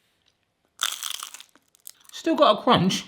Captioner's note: crunching